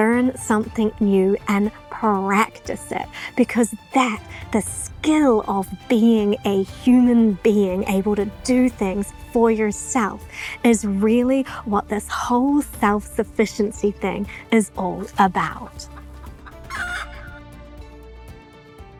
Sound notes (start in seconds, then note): 15.4 laughing